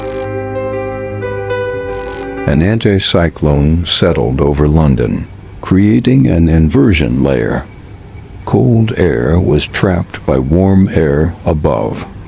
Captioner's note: sarcastic Commentary